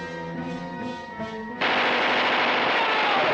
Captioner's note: yelling; firing